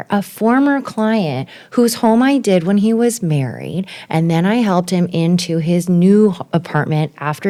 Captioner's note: none